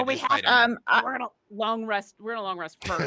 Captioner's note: murmurs